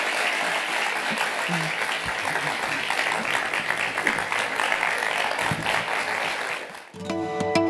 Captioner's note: applause